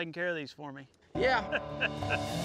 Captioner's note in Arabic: الجميع يضحكون